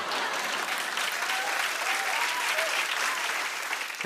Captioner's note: cheers and applause